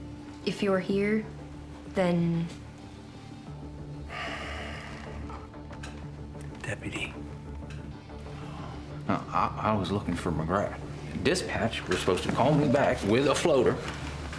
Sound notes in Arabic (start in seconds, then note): 4.0 تنهدات; 7.9 موسيقى متوترة